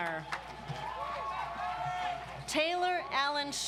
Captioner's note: audience applauds